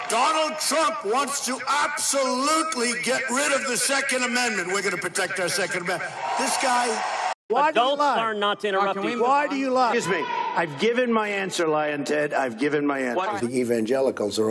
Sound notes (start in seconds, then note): 6.0 cheering